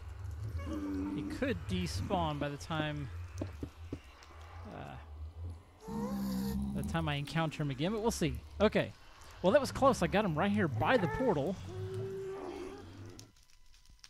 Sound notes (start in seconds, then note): 9.3 grunting continues; 13.0 ghast squalls